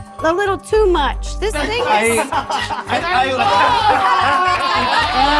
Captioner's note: all laughing